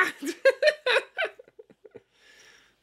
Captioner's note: laughing